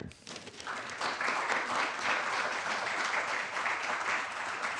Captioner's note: applause